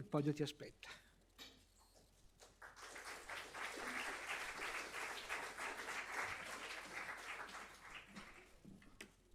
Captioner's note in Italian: Applauso